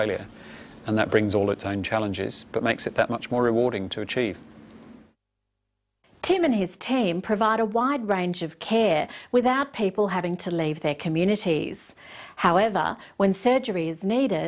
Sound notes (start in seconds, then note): none